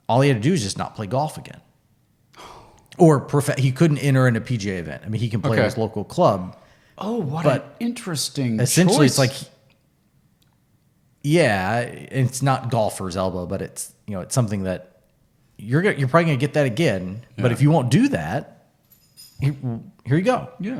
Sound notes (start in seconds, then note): 2.3 sighing